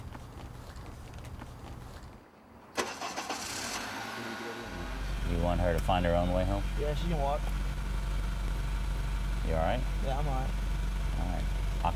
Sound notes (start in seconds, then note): 2.5 starts car